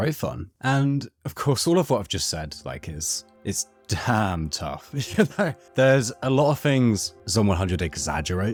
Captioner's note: laugh